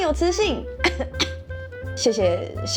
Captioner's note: cough cough